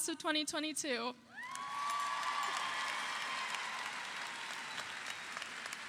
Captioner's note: audience cheering